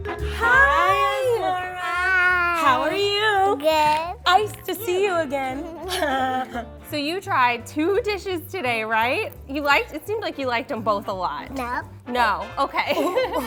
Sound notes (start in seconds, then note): 0.0 playful music; 5.4 chuckle